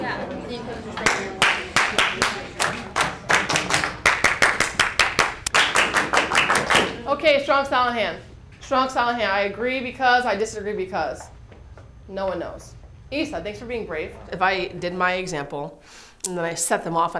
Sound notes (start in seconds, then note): 1.0 clapping